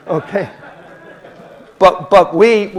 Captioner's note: audience laughing